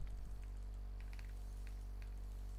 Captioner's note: none